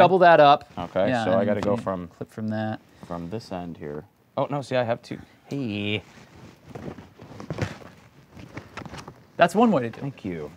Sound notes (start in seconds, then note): 6.5 rummaging